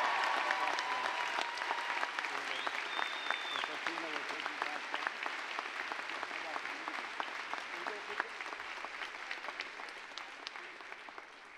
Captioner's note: applause, cheering